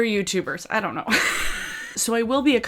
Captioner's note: laughs